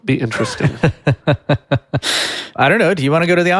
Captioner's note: laughing